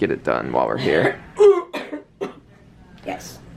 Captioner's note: coughing